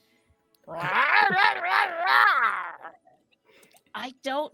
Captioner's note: merperson chatters